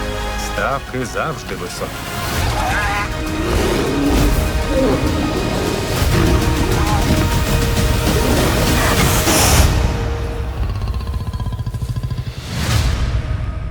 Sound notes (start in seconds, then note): 2.3 hyenas laugh, bears roar; 4.6 lions roar; 7.9 growls, snarls; 10.4 low guttural growl